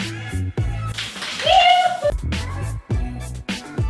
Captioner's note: dog shakes off the water